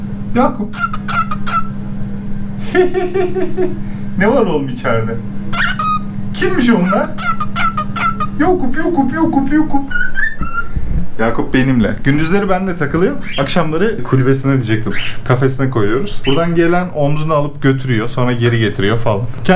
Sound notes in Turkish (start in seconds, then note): 2.6 Gülüşmeler